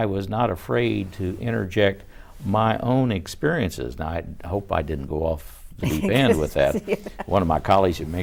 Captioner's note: laughs